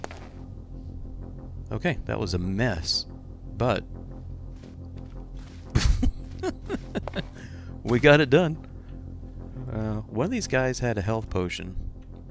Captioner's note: laughs